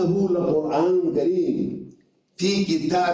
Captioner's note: reading Arabic